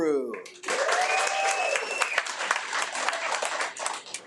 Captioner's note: attendees applaud